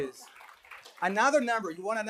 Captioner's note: applause